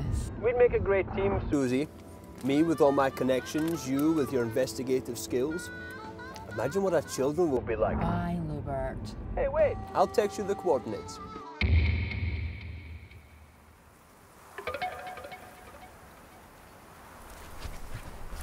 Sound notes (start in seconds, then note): 14.2 traffic passes in distance